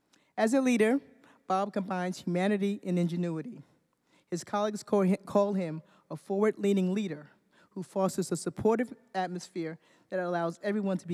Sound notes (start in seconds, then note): none